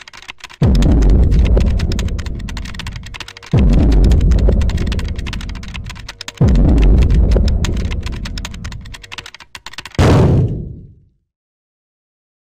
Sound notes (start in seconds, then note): 0.0 keys clicking; 0.6 dramatic thuds